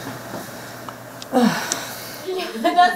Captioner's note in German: erschöpft